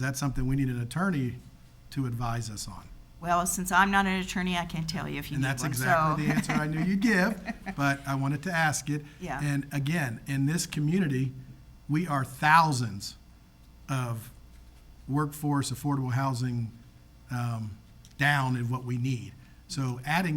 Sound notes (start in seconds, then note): 7.4 singer laughs